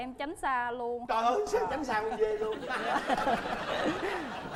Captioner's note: laughing